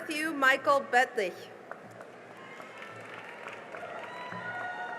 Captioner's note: cheering and applause